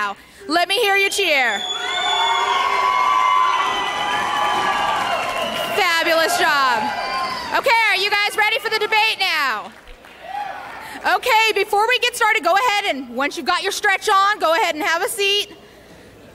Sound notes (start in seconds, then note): 2.6 people cheering